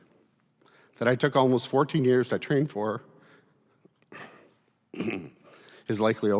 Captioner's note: clearing throat